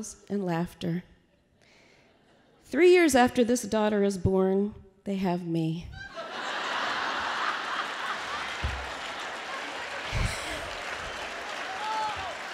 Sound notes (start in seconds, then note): 10.1 laughter